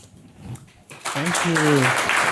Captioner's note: applause